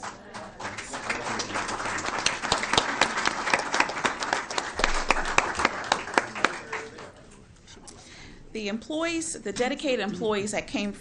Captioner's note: applause